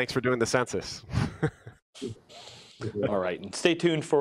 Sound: laughs

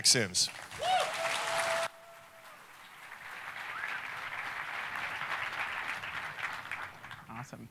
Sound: applause

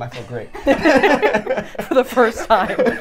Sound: all laughing

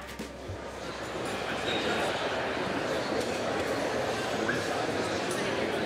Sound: people chattering

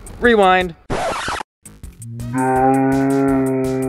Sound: electronic rewinding

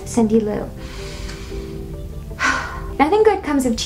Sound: sigh

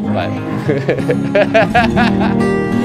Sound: laughter; relaxing country music

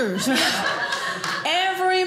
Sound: audience laughing

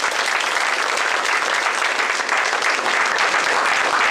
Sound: applause

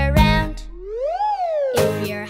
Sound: whistling up and down scale

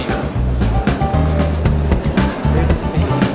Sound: crowd noise

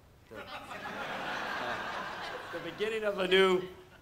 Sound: audience laughs

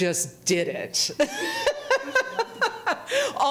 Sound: speaker laughing

